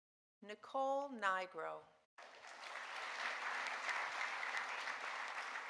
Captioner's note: audience applauding